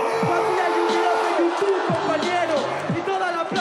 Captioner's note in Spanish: Gritos